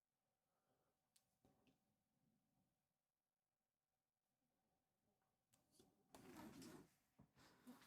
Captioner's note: silence